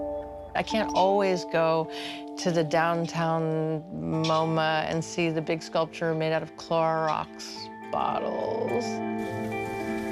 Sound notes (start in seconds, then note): none